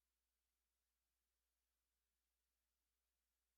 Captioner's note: none